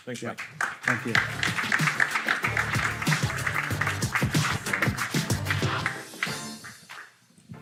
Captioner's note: audience clapping; upbeat music